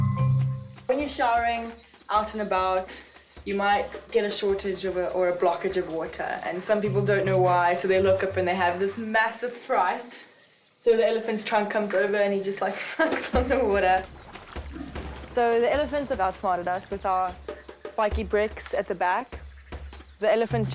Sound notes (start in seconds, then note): 12.7 chuckles